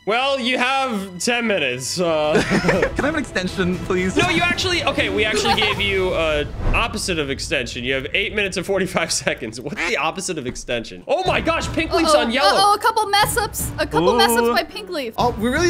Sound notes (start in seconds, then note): 2.1 players laughing; 4.0 laughs